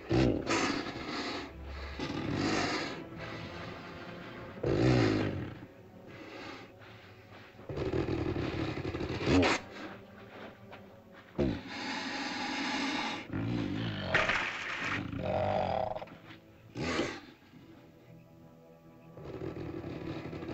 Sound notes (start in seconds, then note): 0.2 ominous music; 1.6 dinosaur grumbles; 5.9 ominous music; 7.6 dinosaur grumbles; 7.7 ominous music; 14.9 dinosaur grumbles; 15.2 ominous music; 19.1 dinosaur grumbles; 19.2 ominous music